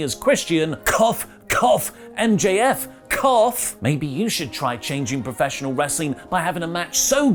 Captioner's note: cough